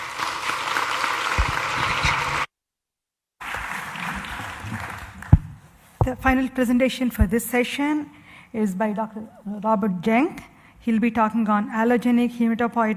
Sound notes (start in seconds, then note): 3.4 applause